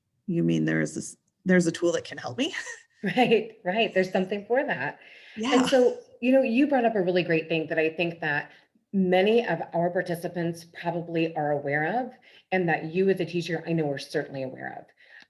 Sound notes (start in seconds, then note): 2.3 laughs; 5.4 laughs